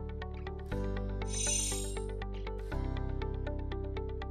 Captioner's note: chiming